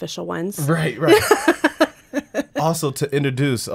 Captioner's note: laughing